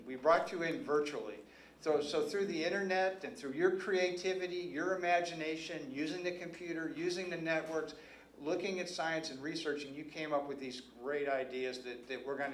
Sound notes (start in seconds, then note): none